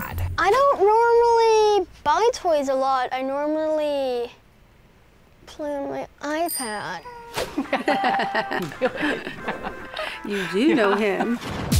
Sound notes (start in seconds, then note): 6.4 ding; 7.4 both laugh